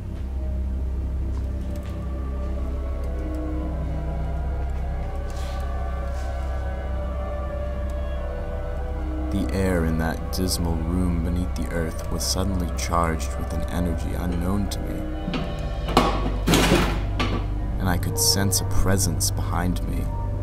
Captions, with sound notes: The air in that dismal room beneath the earth was suddenly charged with an energy unknown to me, [Clattering] and I could sense a presence behind me.